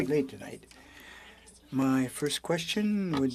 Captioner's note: speaking in French